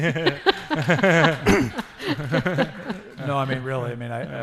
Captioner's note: laughter